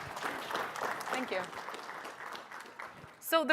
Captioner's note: applause